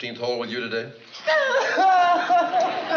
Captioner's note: crying